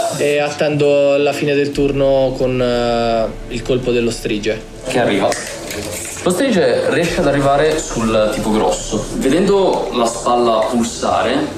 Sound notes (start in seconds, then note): none